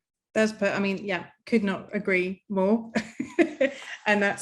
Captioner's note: chuckling